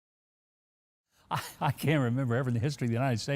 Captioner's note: laughing